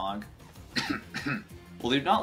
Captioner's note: clears throat